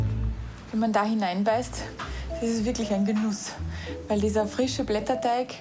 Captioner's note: speaking foreign language